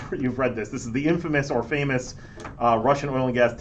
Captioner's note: laughs